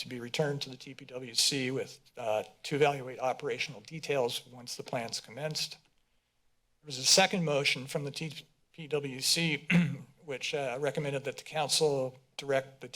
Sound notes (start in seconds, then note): 9.6 clears throat